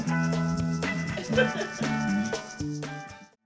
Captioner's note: Cydalise laughs